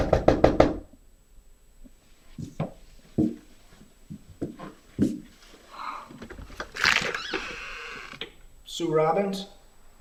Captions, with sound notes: (knocking on door) (door creaking) - Sue Robbins?